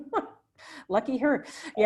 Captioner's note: laughs